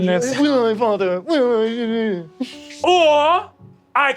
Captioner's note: mockingly